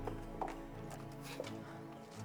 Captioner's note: chuckles